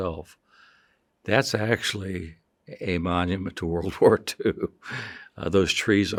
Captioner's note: chuckles